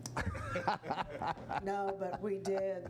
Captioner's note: laughing